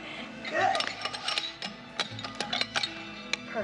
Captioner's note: rattling